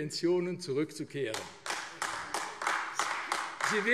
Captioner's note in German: Beifall AfD